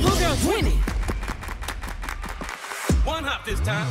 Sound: clapping

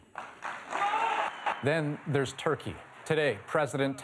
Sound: applause

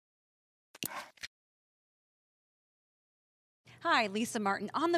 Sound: computer mouse clicking

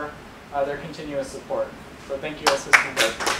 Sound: applause

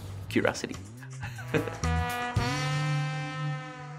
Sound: laughing; saxophone blaring

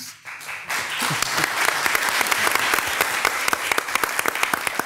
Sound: attendees applaud

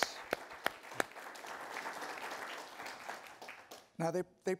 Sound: participants applaud

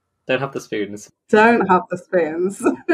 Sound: laughs

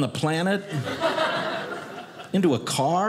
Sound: audience laughing

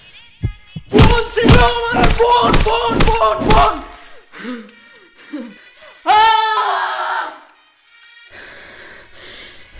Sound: Nirvik Screams

